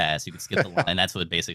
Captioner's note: laughing